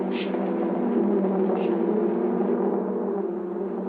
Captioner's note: buzzing